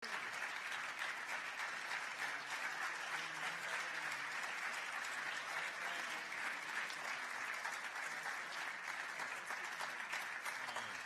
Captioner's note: applause